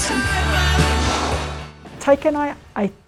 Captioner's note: exhales loudly